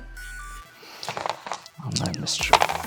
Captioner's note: dice rattle